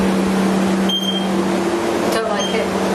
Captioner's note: device beeping